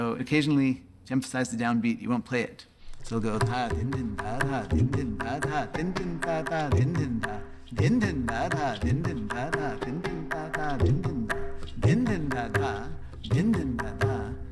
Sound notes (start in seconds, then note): 4.3 vocalizing beats